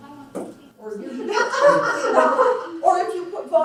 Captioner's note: laughs